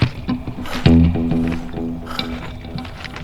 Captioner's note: heavy breathing